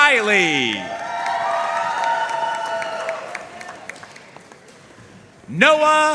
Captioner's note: audience cheering and applauding